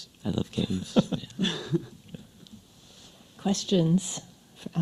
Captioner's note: panelists laugh